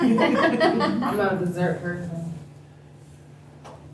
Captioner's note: laughter